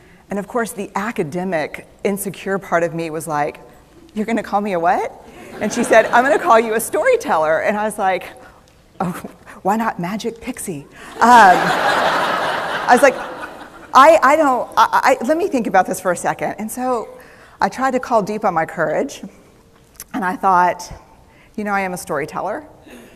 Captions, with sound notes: And of course, the academic, insecure part of me was like, "You're going to call me a what?" And she said, "I'm going to call you a storyteller." And I was like, "Why not 'magic pixie'?" (Laughter) I was like, "Let me think about this for a second." I tried to call deep on my courage. And I thought, you know, I am a storyteller.